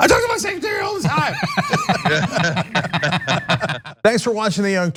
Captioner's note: laugh